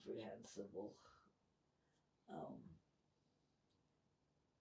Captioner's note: pauses 6 seconds